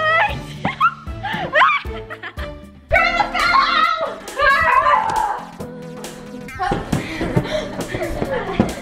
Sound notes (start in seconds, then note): 0.1 laughs; 5.0 cries out